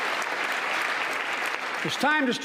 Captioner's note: applause